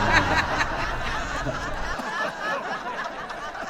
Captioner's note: huge audience laughs